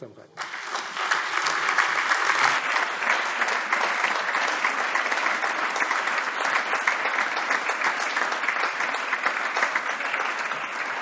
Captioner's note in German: Allgemeiner Beifall